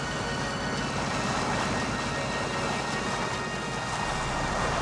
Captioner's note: water splashing